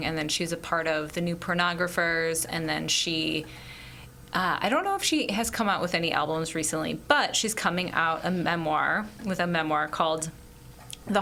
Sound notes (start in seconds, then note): none